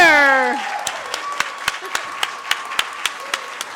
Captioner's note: audience cheers